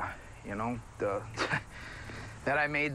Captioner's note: chuckles